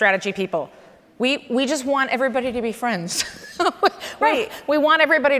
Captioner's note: laughs